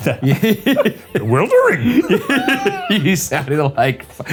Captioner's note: laughing